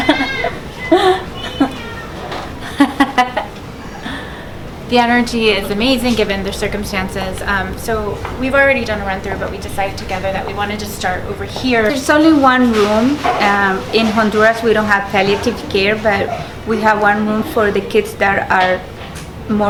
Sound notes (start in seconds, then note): 2.6 laughing